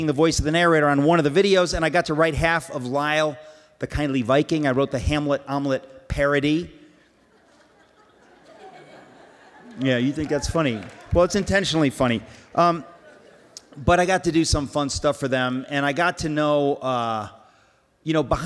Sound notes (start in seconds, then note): 7.1 laughs